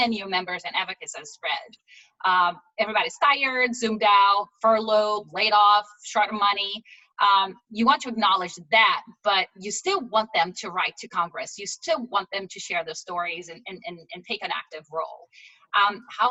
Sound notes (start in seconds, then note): none